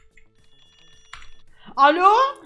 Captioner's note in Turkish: telefon sesi